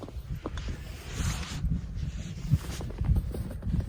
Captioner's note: footsteps in snow